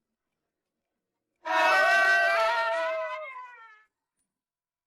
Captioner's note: cheer